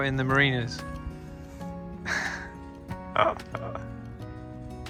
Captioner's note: laughs